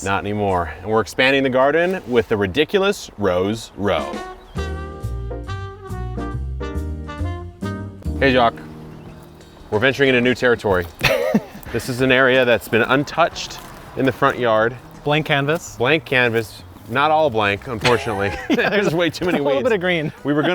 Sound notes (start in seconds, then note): 3.8 light upbeat music; 17.8 both laughing